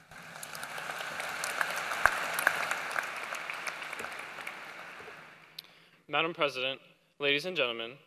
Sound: applause

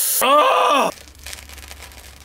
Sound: ahhhhhhhhh

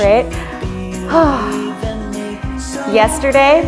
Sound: sighs

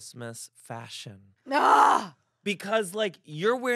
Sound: groans

